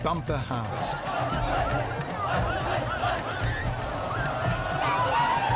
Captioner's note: people chanting